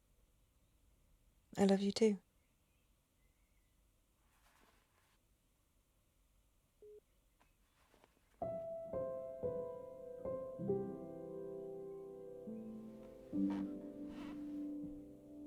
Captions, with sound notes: I love you too. (phone beeping) (gentle orchestral music)